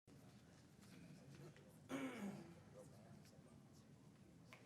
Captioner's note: people chattering faintly